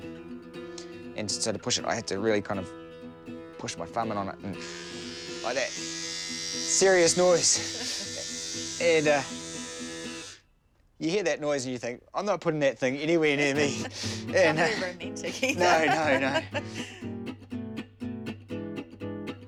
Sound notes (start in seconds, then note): 7.2 loud vibrator noise; 13.4 laughs